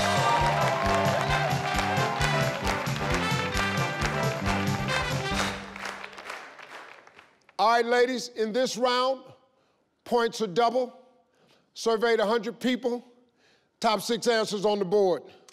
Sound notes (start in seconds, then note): 0.0 theme music playing; 3.3 crowd clapping